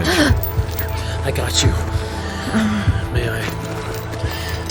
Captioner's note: gasping as she drops a bit, almost collapsing